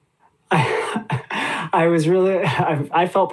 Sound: laughs

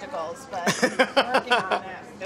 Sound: laughs

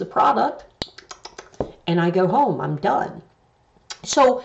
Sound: smacks lips

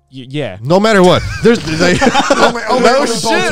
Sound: all laughing; group chattering

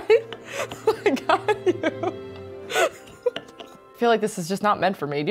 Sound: laughs

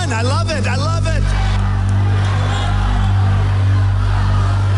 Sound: crowd cheering

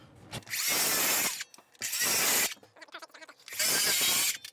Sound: saw whirs

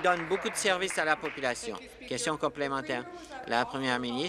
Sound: applause

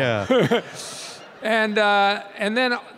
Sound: audience laughing; laughing

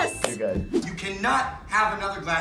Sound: bell chiming

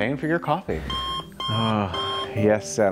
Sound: annyoying alarm

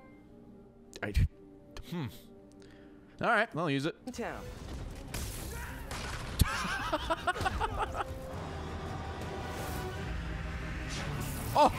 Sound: laughs

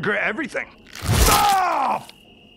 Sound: slash!

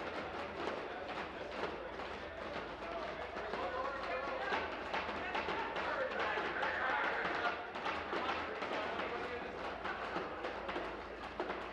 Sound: tapping on desks

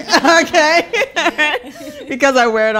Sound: laughing

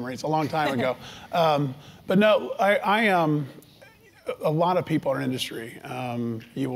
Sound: laugh

